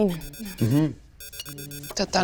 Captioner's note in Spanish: teléfono timbra